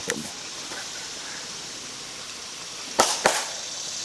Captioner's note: claps